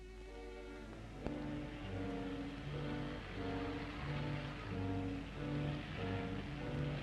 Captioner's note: brooding orchestral music; traffic hums